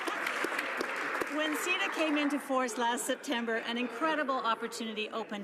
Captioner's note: some Applause